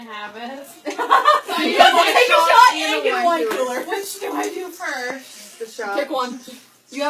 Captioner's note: laugh